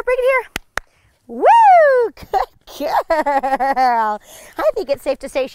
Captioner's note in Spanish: risas